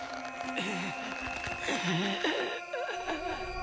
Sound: groaning

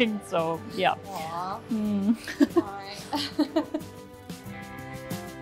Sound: both laugh

